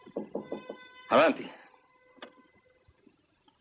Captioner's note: knocking